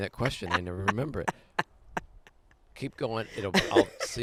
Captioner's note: laughing